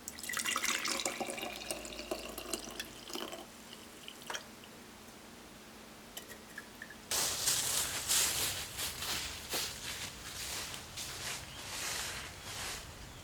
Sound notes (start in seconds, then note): 0.2 sound of water splashing; 7.1 sound of dry leaves crunching